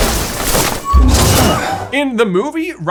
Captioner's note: McLaggen whooshes